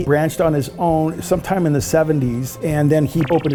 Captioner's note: digital pulsing